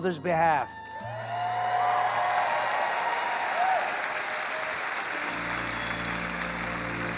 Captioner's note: audience cheering and applause